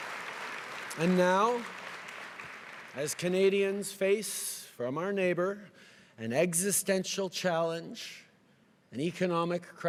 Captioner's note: cheering and applause